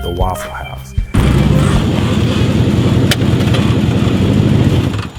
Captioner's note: car engine whirring